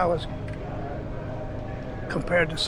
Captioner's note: indistinct chatter